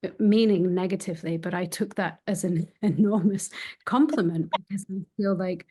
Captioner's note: chuckling